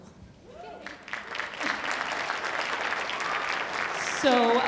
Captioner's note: audience applauding